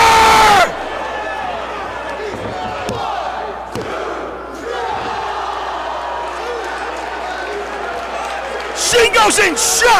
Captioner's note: applause